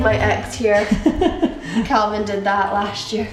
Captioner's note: laughing